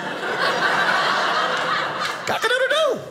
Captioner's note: audience laughing